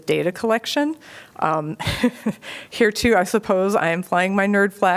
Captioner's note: laughter